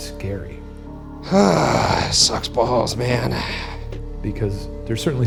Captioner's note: sighs